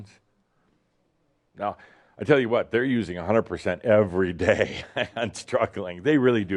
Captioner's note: chuckles